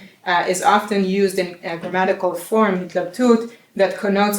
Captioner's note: non-english speech; non-english speech